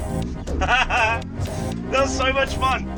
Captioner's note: laughing